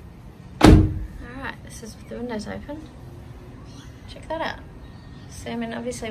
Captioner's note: car door slams